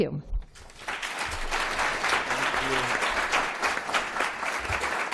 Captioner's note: applause